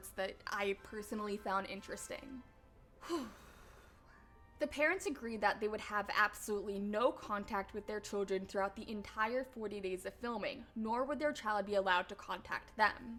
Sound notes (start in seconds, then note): 3.0 sigh